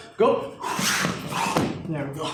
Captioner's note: exhales